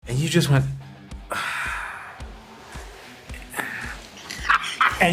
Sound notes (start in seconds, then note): 1.2 sighs; 2.0 rock music